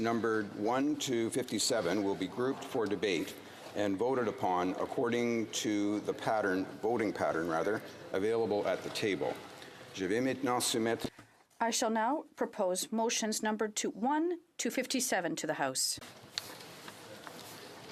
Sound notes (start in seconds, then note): 13.5 speaking french